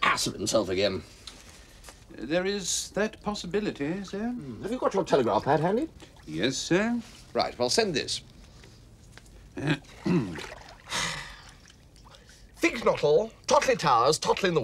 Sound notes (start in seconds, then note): 9.6 clears throat; 10.8 sighs deeply